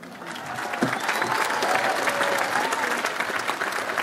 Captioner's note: audience applauds